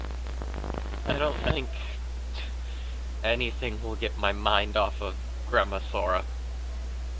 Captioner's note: scoffs